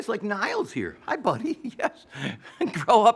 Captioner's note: laughs